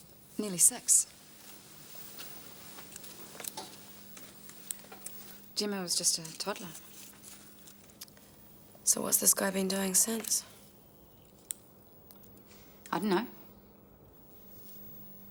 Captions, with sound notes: - Nearly six. (footsteps tapping) Gemma was just a toddler. - So, what's this guy been doing since? - I don't know.